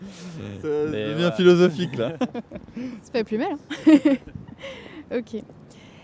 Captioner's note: laughter